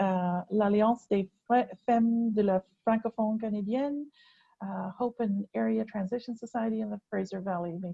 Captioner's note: speaking french